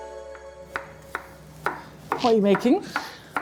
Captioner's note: knife chopping